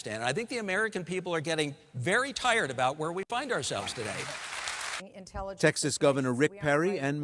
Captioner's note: applause